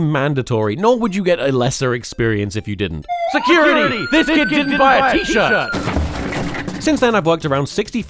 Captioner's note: sirens; thuds